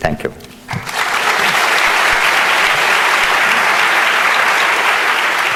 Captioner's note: audience applauding